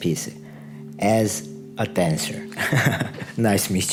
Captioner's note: laughs